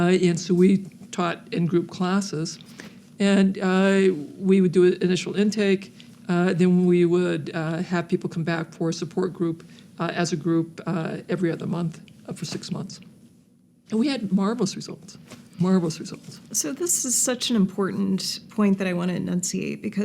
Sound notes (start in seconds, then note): none